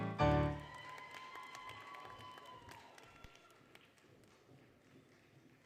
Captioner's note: applause, Cheering; applause, Cheering, Music